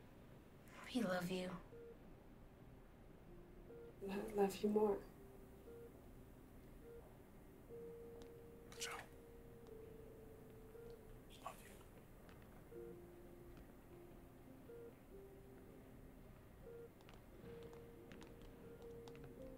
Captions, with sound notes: - We love you. - I love you more. - Angel. Love you. (monitors beep)